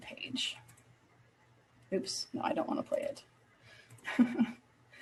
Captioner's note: chuckle